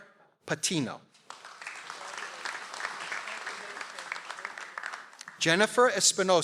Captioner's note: audience applauds